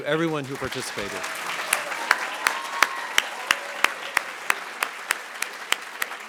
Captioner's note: audience cheering and applauding